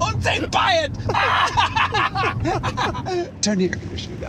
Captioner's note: maniacal Laughter